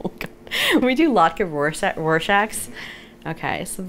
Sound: laughs

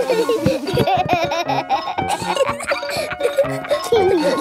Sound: giggling

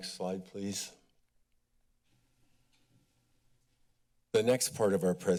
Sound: silence

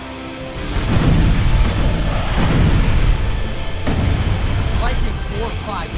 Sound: explosions booming

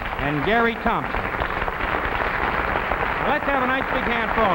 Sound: audience clapping

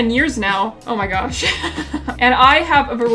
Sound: laughs

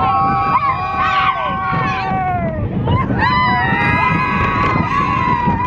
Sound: screaming

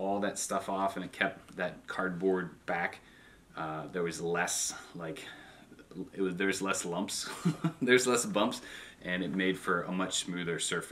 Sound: ha ha

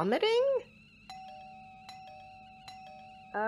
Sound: door bell rings repeatedly

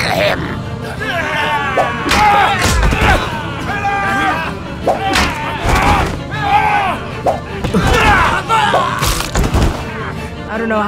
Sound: fight sounds, pirates dying

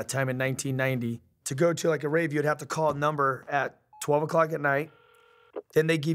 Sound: internal phone ring

